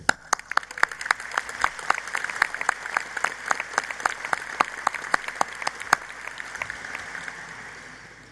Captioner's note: applause